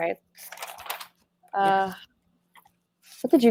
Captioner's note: papers shuffling